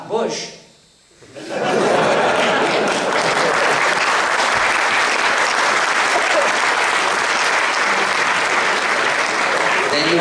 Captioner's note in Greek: Δυνατά γέλια και παλαμάκια από το ακροατήριο